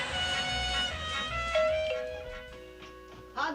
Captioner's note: doorbell rings